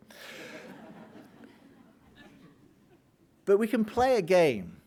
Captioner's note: audience laughing